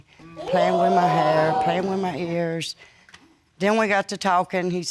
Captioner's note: audience exclaiming